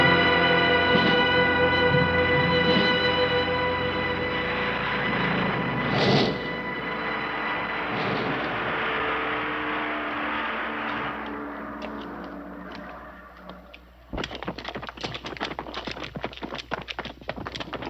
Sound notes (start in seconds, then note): 14.1 footsteps pattering